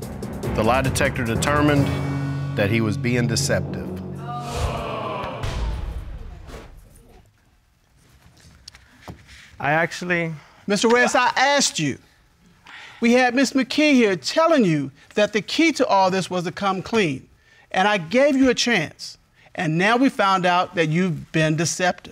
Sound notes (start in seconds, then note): 4.1 audience groan